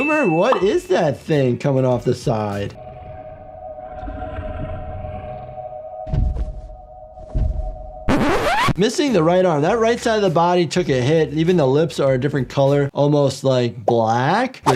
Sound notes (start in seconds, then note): 2.7 eerie music; 7.2 footsteps thudding